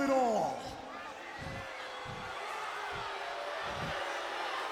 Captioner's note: audience booing